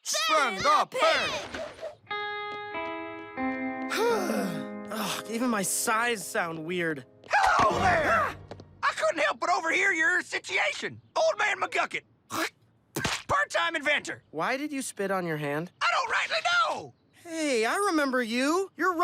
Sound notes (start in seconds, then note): 3.9 sighs, voice cracks; 12.7 spits